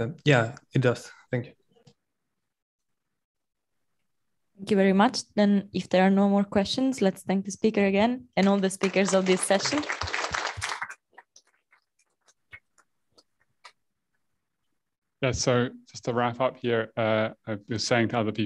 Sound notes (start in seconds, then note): 10.1 applause